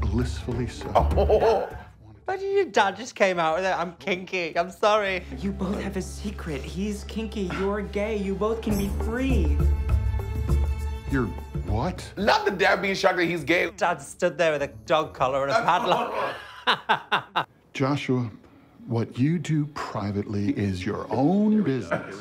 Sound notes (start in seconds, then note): 15.5 laughing